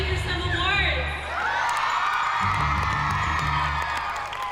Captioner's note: cheering